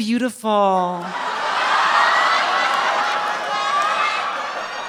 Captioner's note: audience laughing